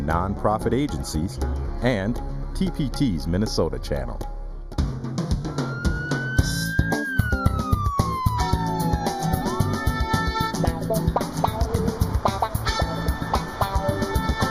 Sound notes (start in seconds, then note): 5.4 a siren wails